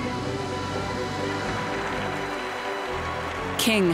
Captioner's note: applause